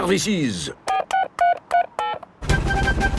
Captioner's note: dialing